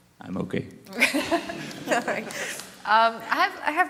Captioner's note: laughs